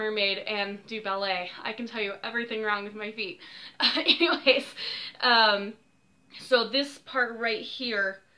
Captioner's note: awkward laugh